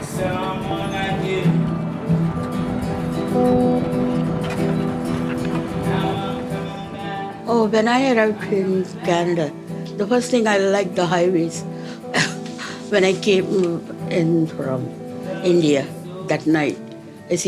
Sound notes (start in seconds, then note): 11.9 laughs